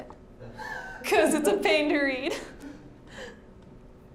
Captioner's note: laughing